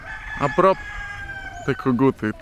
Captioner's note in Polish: pianie koguta